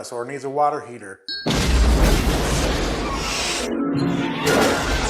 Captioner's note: house explodes